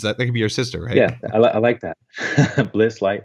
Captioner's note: laughs